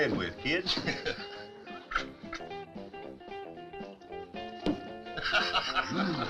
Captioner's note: lively music; both chuckling